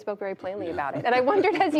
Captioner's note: laughter